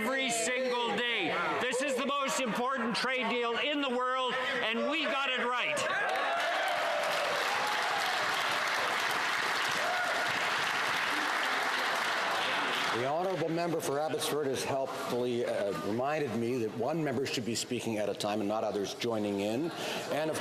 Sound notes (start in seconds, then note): 9.3 some Applause